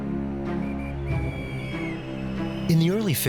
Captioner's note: policeman blows whistle